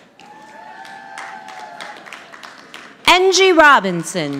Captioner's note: audience applauding